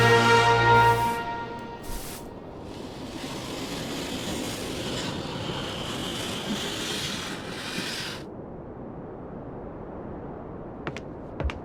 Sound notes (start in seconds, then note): 2.6 rubbing noises